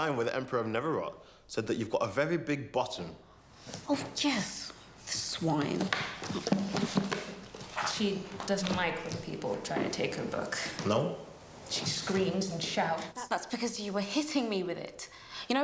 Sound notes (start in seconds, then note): 5.4 book clattering